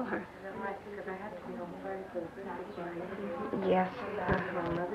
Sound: chatter

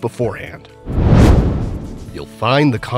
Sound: meteor whooshes

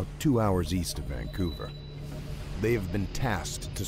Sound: voiceover

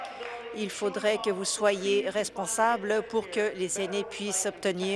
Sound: applause

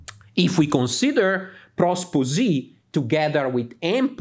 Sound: speaks in Greek; speaks in Greek

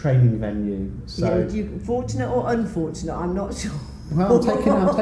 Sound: laughs

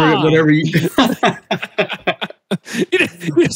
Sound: both laughing

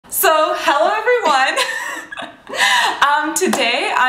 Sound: laughter

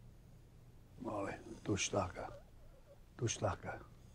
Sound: speaks Osage

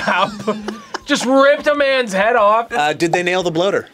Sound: laughs

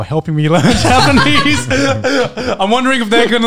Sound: all laughing; laughs

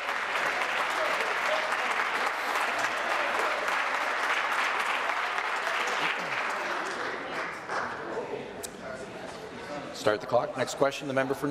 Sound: applause

